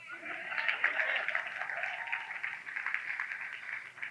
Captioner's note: audience claps